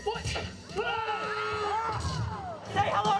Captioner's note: scream